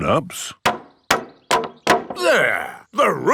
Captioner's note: hammering